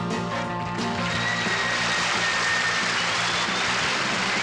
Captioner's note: applause